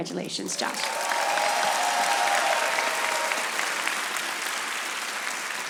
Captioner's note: audience applauding